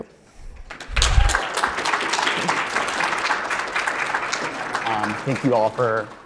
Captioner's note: audience applauding; audience cheering